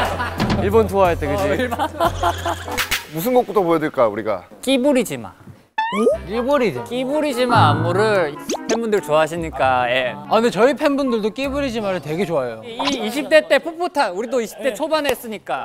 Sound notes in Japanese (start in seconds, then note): 1.9 けらけらけら